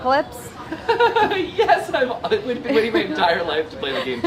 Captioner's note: laughs